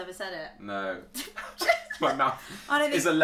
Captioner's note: laughs